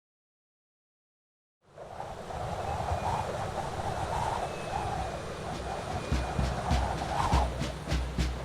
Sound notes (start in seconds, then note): 1.6 wind blows; 5.5 drums beat